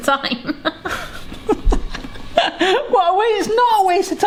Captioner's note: laughing